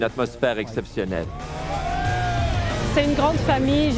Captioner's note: shouts of joy